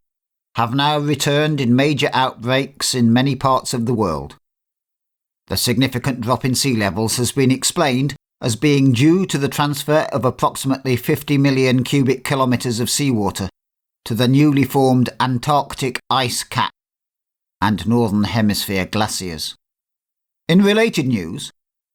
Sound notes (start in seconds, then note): none